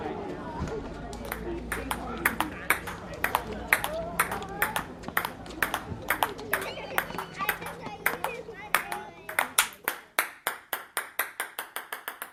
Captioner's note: ping-pong sounds